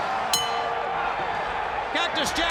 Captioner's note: bell ringing